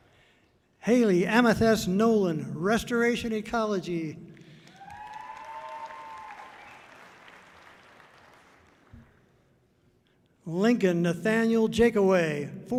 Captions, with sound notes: Hailee Amethyst Nolan, Restoration Ecology. (audience cheering loudly) Lincoln Nathaniel Jacoway,